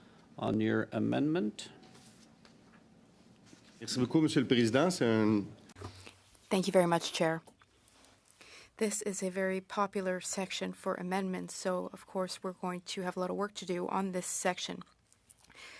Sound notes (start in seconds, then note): 8.6 speaking French